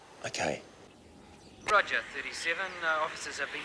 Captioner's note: police Radio